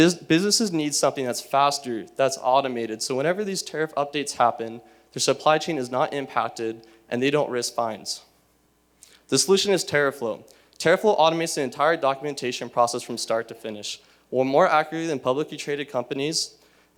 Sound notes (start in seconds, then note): none